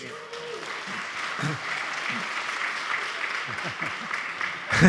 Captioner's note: audience applauding